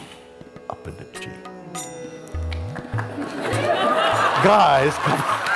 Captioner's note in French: rires et applaudissements